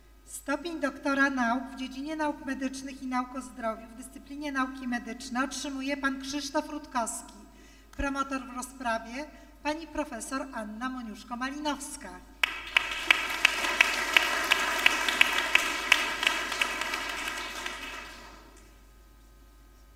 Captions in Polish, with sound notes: Stopień doktora nauk w dziedzinie nauk medycznych i nauk o zdrowiu w dyscyplinie nauki medyczne otrzymuje Pan Krzysztof Rutkowski promotor po rozprawie Pani profesor Anna Moniuszko-Malinowska. [oklaski]